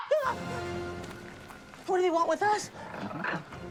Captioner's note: Seymore shouting